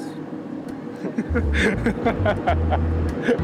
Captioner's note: laughing